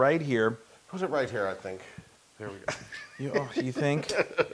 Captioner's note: laugh